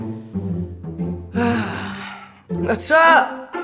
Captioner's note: sigh